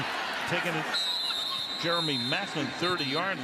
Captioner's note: whistle